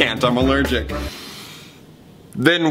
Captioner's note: inhales loudly